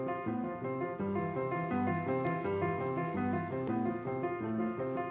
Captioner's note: chirring